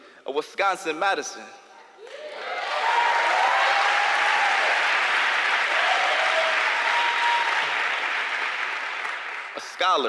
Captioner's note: applause